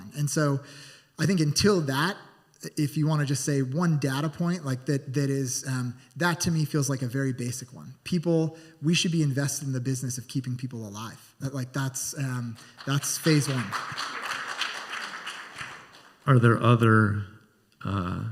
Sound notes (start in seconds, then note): 14.1 scattered applause